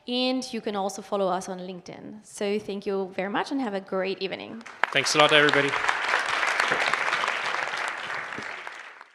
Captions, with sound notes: And you can also follow us on LinkedIn. So thank you very much and have a great evening. - Thanks a lot, everybody. (audience applauding)